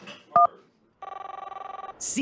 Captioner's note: phone ring